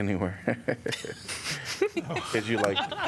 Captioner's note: laughter